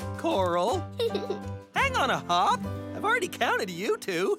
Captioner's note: chuckles